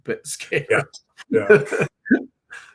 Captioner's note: laughs